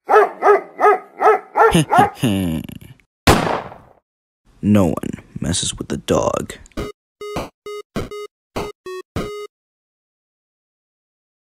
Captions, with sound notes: [Dog Barks] He he he! [Gunshot] No one, messes with the dog